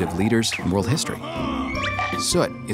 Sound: man laughs

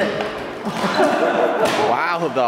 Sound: laughing

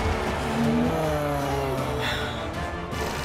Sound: gasping

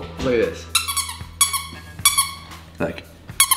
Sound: squeaker squeaking

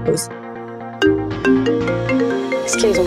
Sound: mobile phone chimes

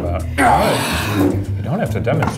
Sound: sighs

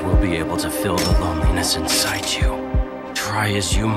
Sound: gun rattles

